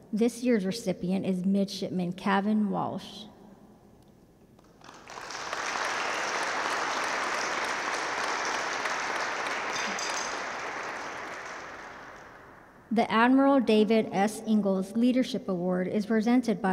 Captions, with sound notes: This year's recipient is Midshipman Kevin Walsh. (audience claps) The Admiral David S. Ingalls Leadership Award is presented